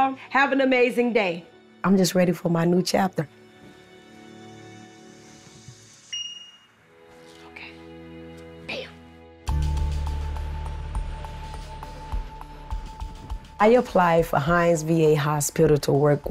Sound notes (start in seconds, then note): 6.1 computer notification tone; 9.7 bright music